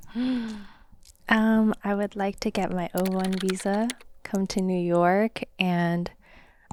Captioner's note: gasps